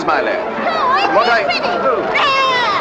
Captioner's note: child yelling